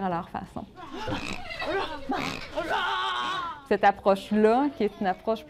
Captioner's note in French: grognements